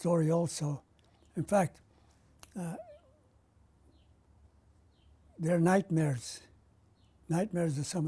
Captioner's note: pauses for 3 seconds